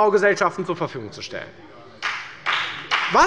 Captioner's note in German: Beifall bei der FDP